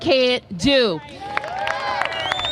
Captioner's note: applause